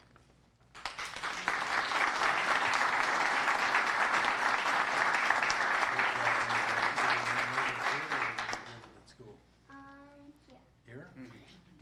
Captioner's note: applause